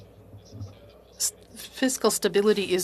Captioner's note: speaking french